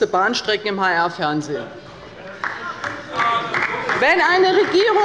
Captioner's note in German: Heiterkeit und Beifall bei der LINKEN – Zurufe von der CDU